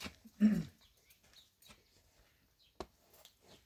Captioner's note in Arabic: تنحنُح